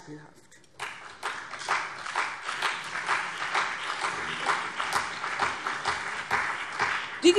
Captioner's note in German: Beifall CDU und BÜNDNIS 90/DIE GRÜNEN